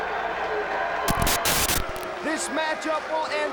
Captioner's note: static crackling